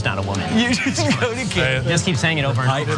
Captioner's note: laugh